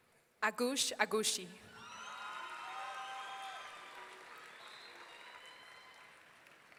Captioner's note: audience cheering